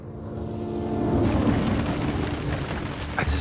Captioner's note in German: Feuerknistern